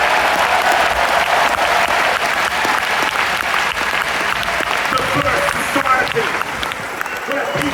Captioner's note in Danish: Bifald